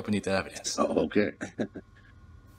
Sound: Mr. Gardner laughs

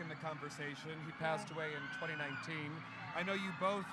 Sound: fans cheering

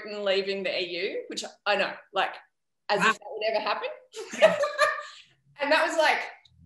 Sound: laughs

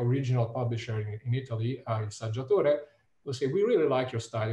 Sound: speaks in Italian

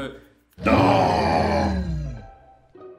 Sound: growls

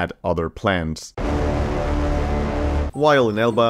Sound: super dramatic sound

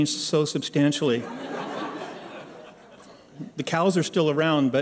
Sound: laughter

